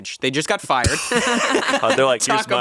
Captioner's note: all laughing